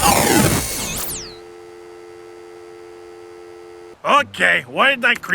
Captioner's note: dial tone